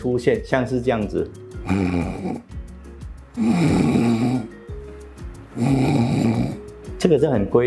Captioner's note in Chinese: 打呼聲